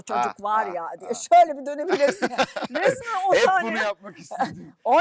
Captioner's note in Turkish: kahkaha